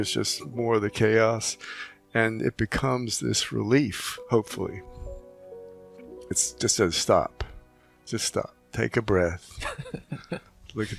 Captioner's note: laughing